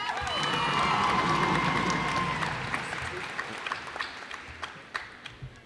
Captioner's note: cheers and applause